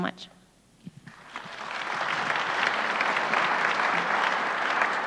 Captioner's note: audience applauds